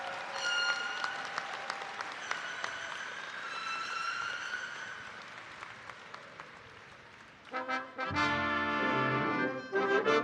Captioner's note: cheers and applause